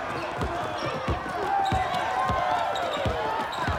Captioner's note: crowd cheering